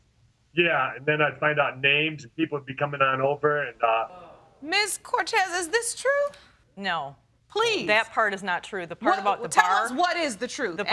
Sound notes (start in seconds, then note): 3.8 audience exclaiming